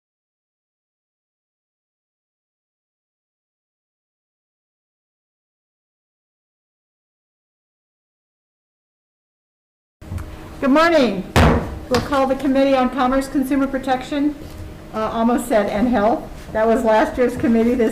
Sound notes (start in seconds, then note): 11.3 gavel bangs